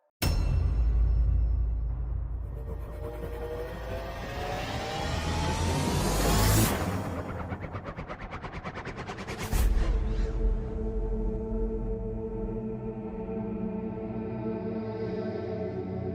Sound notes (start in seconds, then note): 0.2 dramatic zoom in SFX; 2.5 movie trailer dramatic spinning SFX; 9.7 chanting